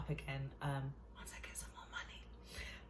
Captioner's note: whispers